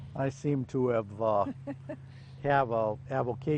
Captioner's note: chuckles